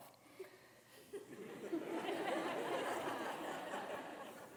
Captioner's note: students laughing